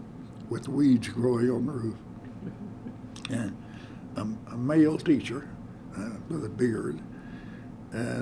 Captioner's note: laughter